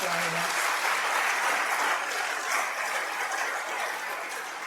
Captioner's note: applause